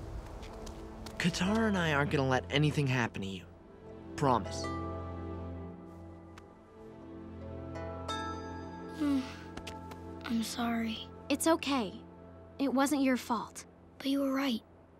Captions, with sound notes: Katara and I aren't gonna let anything happen to you. Promise. [sighing] I'm sorry. It's okay. It wasn't your fault. But you were right.